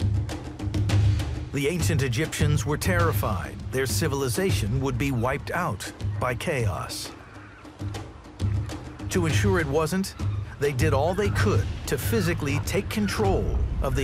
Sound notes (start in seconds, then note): 0.1 lively upbeat music; 7.1 birds chirp; 7.1 lively upbeat music